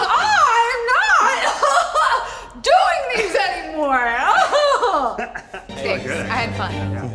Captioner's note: laughs